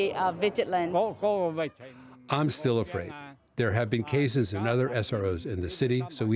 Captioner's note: through translator